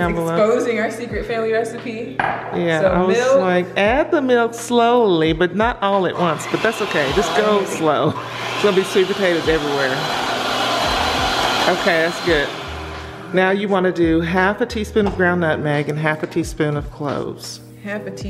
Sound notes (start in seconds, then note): 7.8 laughing; 8.2 mixer whirring; 10.0 mixer whirring